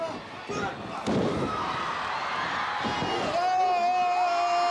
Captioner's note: floor banging